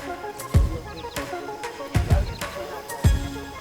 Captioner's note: birds chirping; upbeat music